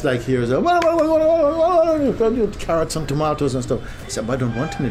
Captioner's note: makes sounds of busy, noisy market